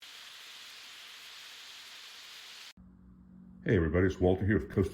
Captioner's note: sizzling